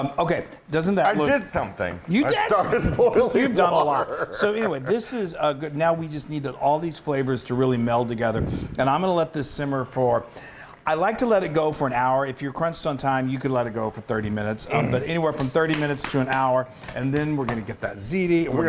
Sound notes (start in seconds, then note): 2.2 laugh